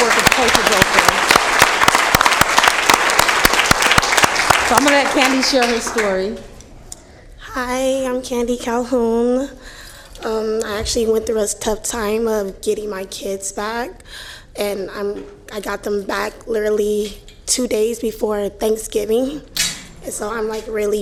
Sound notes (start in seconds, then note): 6.5 applause